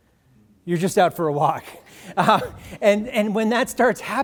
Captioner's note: audience: laughing